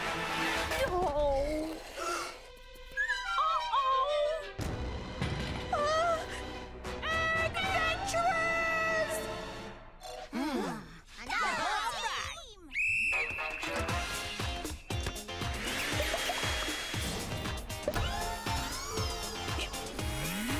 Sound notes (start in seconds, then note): 1.5 gasps; 11.2 excited shouting; 12.7 whistle blowing; 13.2 upbeat music; 15.6 whirring